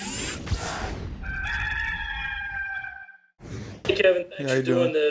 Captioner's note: rooster crowing